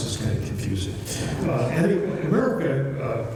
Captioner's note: laughter